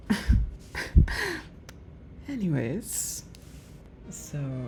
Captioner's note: laughs